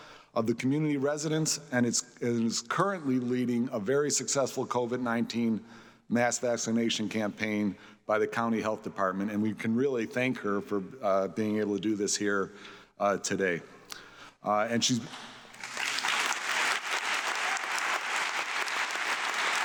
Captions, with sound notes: of community residents and is currently leading a very successful COVID-19 mass vaccination campaign by the County Health Department. And we can really thank her for being able to do this here today. (audience clapping)